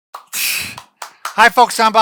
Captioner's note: clapping